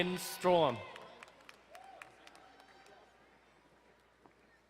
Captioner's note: distant cheering